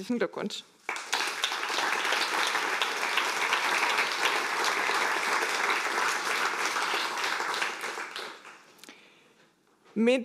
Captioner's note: applause